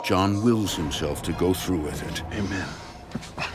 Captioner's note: groans